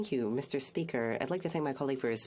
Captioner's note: speaking FRENCH